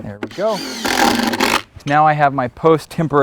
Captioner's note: drill whirring, no additional audio